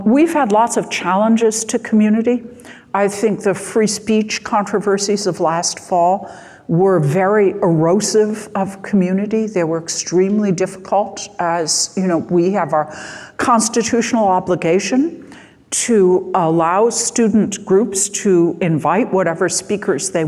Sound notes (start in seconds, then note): none